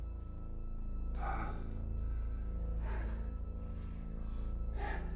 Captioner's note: Michael sighing